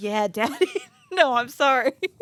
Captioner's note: laughs